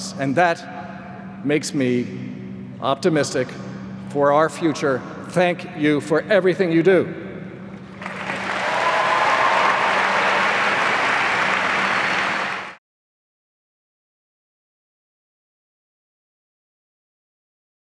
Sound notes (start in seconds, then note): 7.9 applause